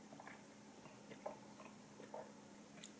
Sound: milk gulp gulp

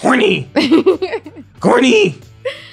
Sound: laughing

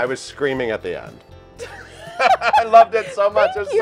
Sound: laughter

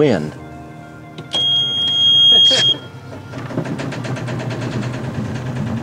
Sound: boat engine starting

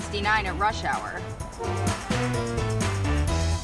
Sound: car Horns

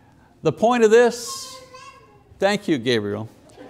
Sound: child yells

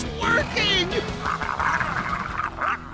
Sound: growling

